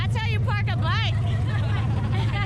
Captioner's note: laughter